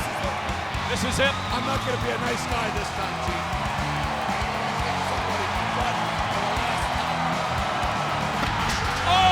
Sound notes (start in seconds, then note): 3.2 audience cheering